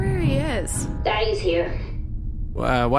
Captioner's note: distant alarms